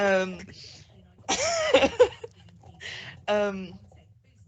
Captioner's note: laughing